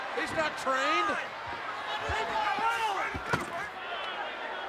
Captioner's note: crowd chattering